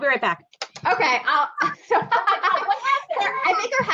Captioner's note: laughing